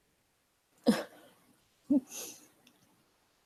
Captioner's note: eating and laughing